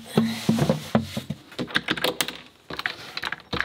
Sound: thud; metal lock clicking

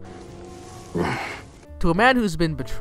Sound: hrm

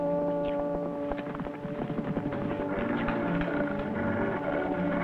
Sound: hooves clattering

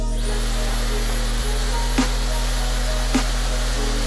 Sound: machine blowing

